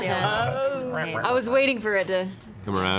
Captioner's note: laughs